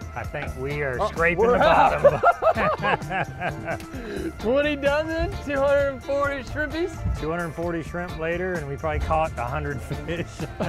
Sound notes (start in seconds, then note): 1.2 both laugh; 10.3 both chuckle